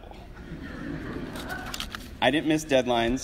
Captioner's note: audience laughs